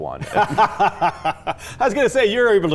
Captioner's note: laughs